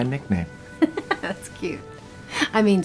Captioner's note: chuckles